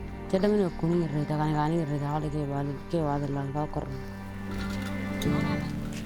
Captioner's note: speaking in foreign language